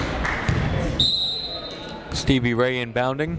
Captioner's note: whistle blaring